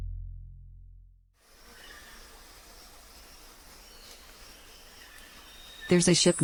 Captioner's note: bugs buzzing; birds chirping